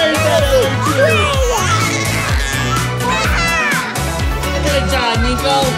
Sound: baby screams

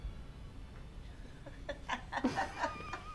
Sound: laughing

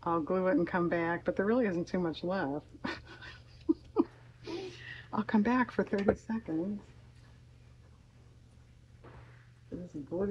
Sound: laughs

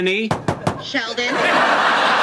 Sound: Penny knocking; audience laughing

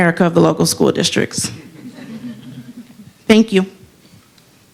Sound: laughter

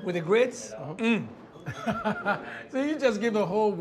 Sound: laughs

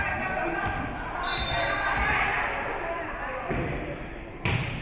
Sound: spectators shouting encouragements; whistle being blown

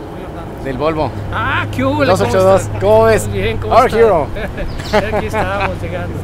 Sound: speaking a foreign language

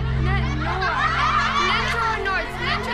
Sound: louder laughter

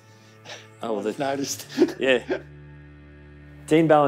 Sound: laughs

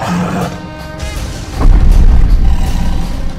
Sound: lion roars

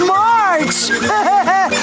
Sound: laughing

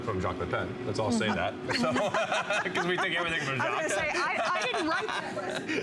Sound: laughter

